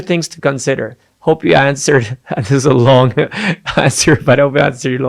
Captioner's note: laughing